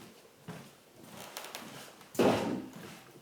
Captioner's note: the floor creaks